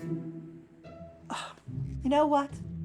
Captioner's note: gasps